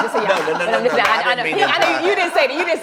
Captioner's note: laughter